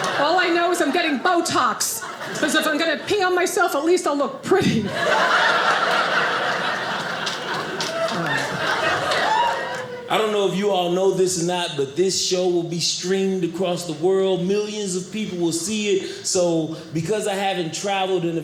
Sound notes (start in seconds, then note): 4.9 audience cheers